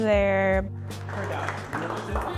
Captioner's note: clapping